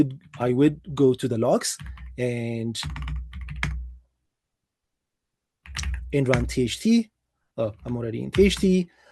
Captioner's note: keyboard clicking